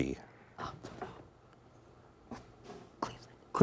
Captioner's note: whispering